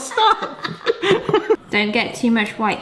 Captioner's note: both laugh